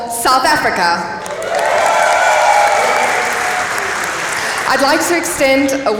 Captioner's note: applause